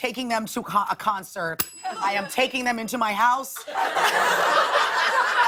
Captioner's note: ding